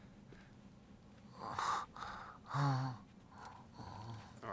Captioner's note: moaning